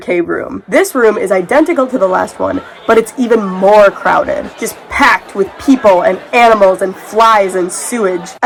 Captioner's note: crowd chattering